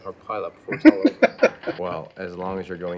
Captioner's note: laughing